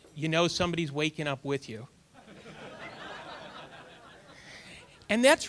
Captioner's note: audience laughter